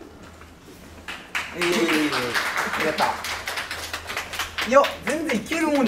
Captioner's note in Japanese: 拍手